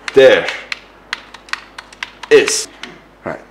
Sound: joypad Clicking

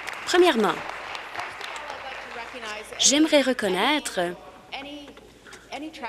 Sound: applause

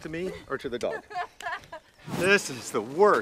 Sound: Lindsey laughs

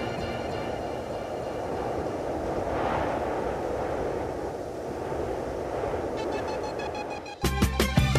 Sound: wind sound

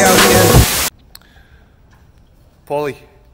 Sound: TV static

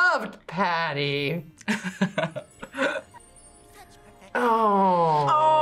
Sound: chuckles

